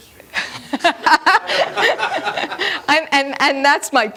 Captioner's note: laughter